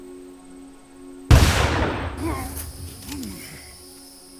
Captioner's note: gun fires